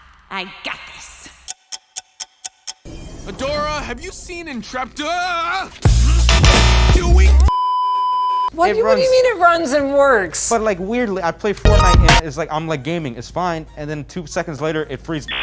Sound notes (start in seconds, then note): 1.4 ticking clock; 6.4 buzzing noises + an intro; 7.5 beeeeeeeeeeeep; 15.2 dialup intensifies